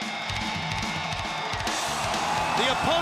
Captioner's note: crowd cheering